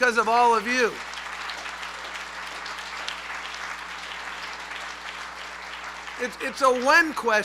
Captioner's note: applause